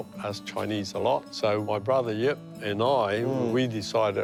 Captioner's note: chuckles